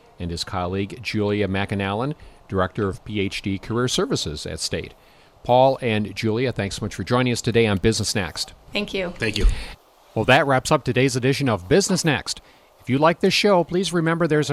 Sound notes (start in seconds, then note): 9.0 voiceover